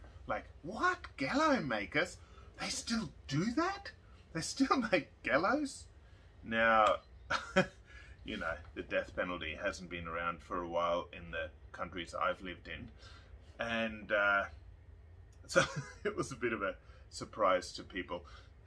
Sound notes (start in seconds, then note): 7.2 chuckles; 14.3 laughs